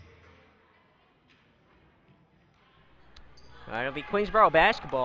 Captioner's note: crowd talking